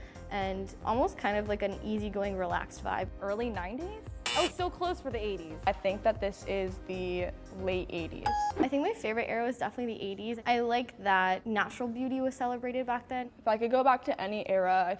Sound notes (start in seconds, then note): 4.2 buzzer; 8.3 ding